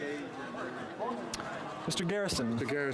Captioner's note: speaking French